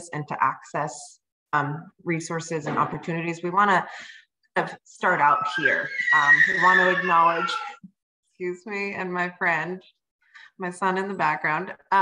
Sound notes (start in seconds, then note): 5.2 child screaming